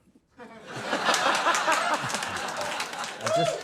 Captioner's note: laughing